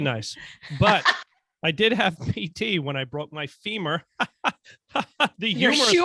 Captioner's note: laughing